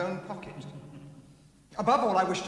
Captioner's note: chuckling